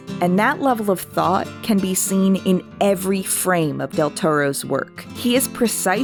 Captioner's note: none